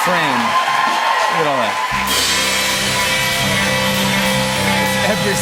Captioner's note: cheers and applause